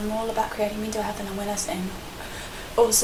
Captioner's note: gasp